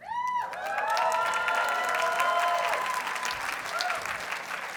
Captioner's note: audience cheers and applauds